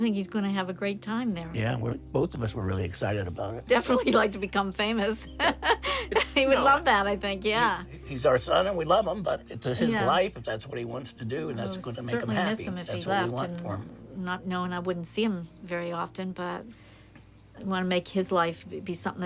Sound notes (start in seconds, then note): 5.4 laughing